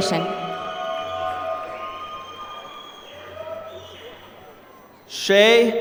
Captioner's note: applause